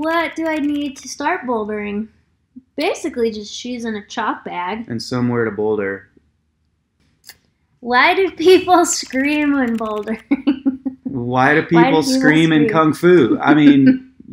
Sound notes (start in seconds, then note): 6.8 keyboard clicking; 10.2 laughs